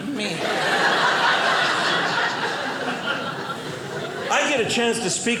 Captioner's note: audience laughing